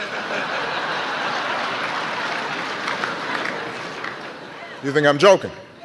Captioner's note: laughter, applause; laughter